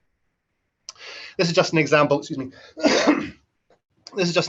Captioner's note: cough